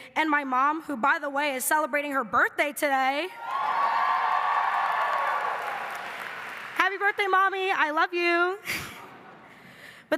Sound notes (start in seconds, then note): 3.4 audience cheering and clapping; 8.2 laughing